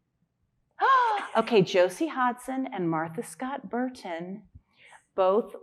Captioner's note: gasping